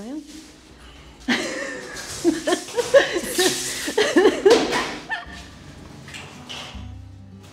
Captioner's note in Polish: śmiech